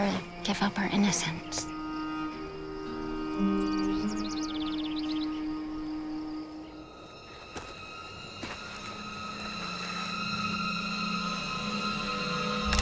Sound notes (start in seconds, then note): 2.7 birds chirping; 2.7 calm music playing; 7.0 dramatic music